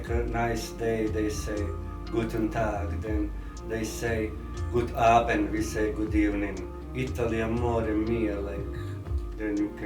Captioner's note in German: Italienisch sprechend